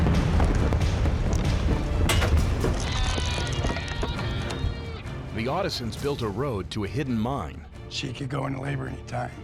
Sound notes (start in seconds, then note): 0.0 explosion; 2.8 rocks falling